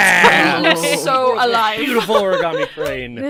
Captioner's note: laughs